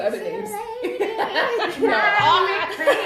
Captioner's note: laughs